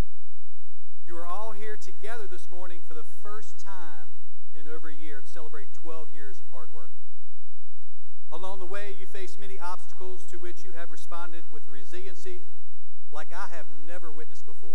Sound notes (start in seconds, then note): none